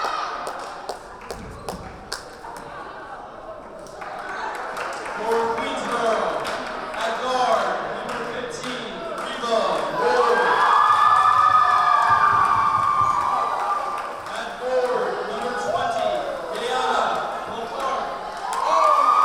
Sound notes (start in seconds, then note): 0.3 clapping and cheering; 10.7 cheering; 19.0 cheering